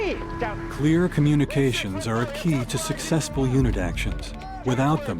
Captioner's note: voiceover